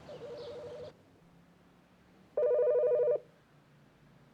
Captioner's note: phone ringing